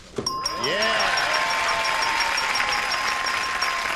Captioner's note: pinging; applause, cheering